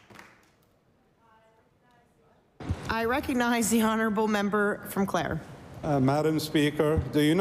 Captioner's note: applause